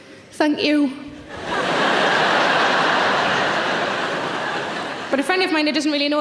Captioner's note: audience laughing